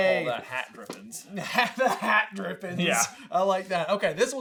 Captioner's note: laughs